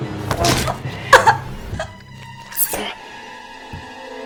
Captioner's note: knife stabbing; crying